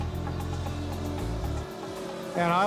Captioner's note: motor rumbling; energetic expectant music